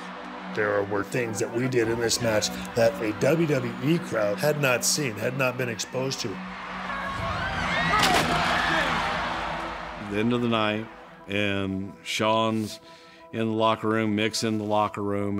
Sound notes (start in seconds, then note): 6.7 crowd cheers